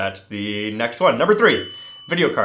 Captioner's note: bell rings